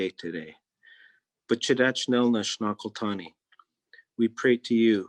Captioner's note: speaking in Native Language